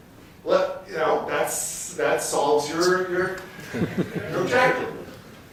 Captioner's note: laughter